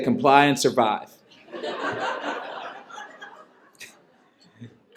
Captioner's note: laughter